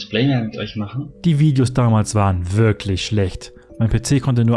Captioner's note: voiceover